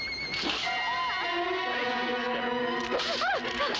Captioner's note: screaming